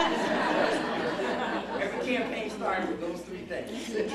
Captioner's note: laughter